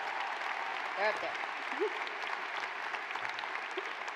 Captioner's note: cheers and applause